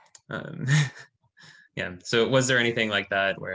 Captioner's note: laughing